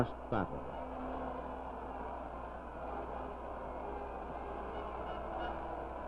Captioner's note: crowd cheering, horns blowing